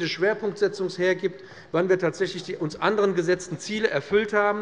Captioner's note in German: none